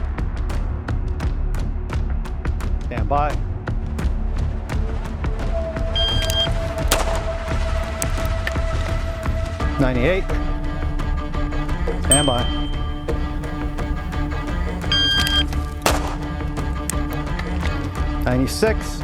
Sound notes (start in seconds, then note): 6.0 timer beeps; 6.9 guns fire; 14.9 timer beeps; 15.8 guns fire